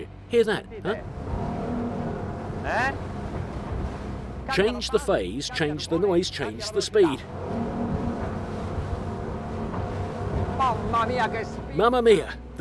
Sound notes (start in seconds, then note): 1.9 boat engine revs